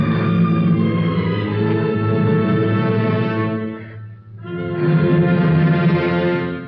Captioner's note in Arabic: يتنفس بشدة